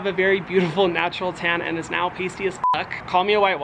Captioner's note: beeps